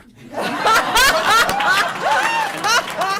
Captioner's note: laughter